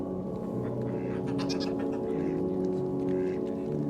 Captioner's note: ducks quacking